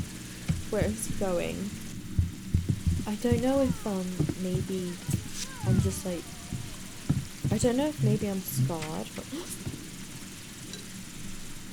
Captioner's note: gasps